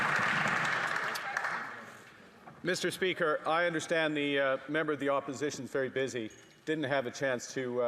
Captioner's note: some Applause